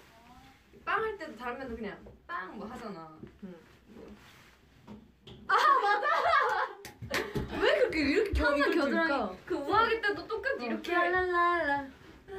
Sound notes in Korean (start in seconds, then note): 6.3 짝짝